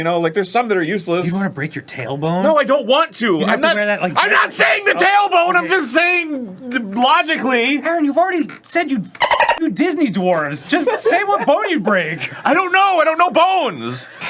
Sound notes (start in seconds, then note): 6.6 stammers